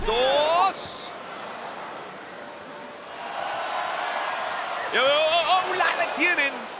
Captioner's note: applause